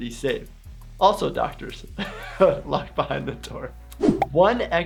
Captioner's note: laughs